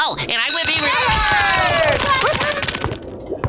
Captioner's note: bell ringing, cheering